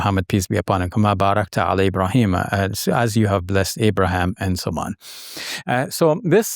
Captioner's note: speaking Arabic